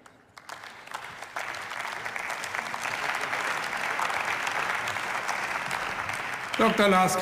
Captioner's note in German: Beifall